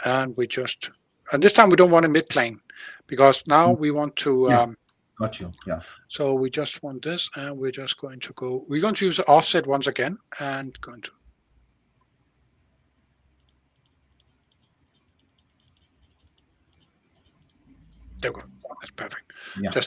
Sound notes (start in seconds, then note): 13.3 mouse clicking